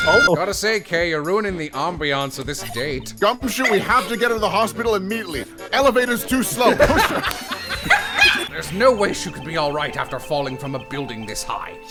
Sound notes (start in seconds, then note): 6.2 laughter